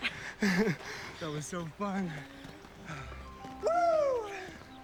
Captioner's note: contented sigh